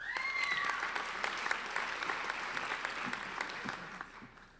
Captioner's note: applauding